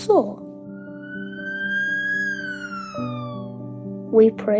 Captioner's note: ambulance sirens